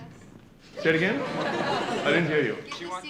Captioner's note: laughter